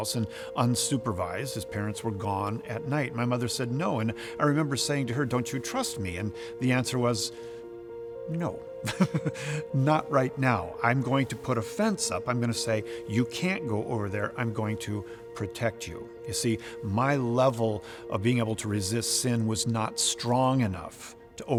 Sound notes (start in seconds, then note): 8.8 laughs